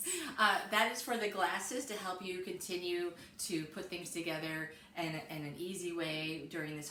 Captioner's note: laughing